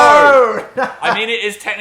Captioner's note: Dan laughing